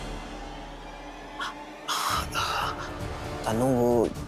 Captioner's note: exhales